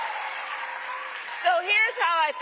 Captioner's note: cheering